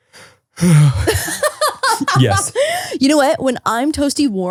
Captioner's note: yawning; laughing